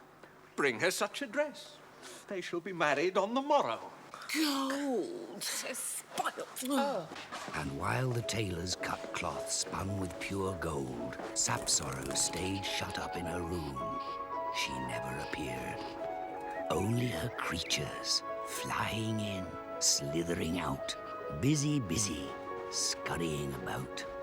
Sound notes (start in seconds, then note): 4.2 mocking